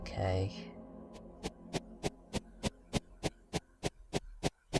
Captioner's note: shuffling sound